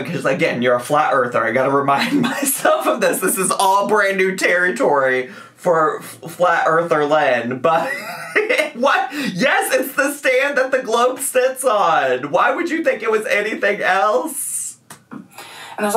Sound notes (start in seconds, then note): 7.7 laughing